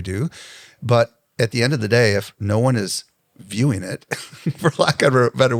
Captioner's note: laughs